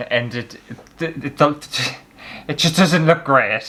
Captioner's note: stuttering